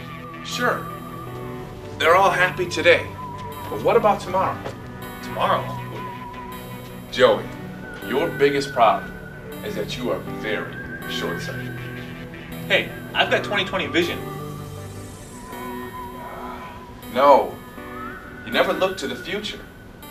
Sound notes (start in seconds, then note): 16.0 sighs